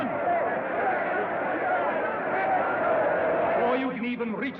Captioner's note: crowd Clamoring, Shouting